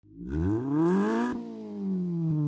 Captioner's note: engine revs